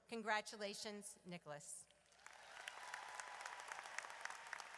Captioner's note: audience cheers